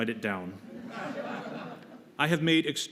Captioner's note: laughter